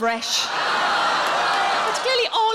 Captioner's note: audience laughing